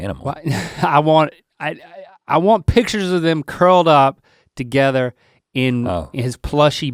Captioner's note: laughing